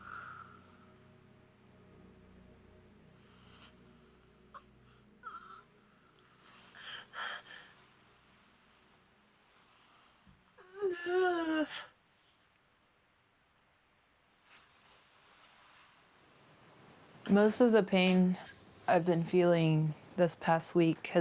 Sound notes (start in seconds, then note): 7.5 groaning